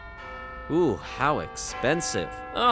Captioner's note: Big Ben chimes